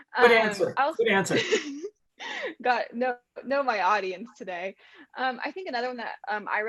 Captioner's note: laugh